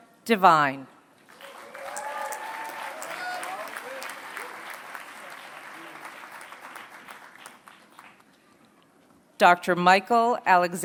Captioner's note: applause